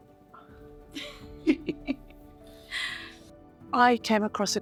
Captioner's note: laughing